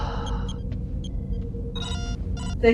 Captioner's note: sigh